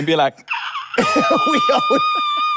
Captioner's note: laughs; screeches